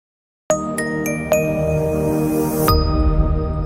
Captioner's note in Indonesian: lonceng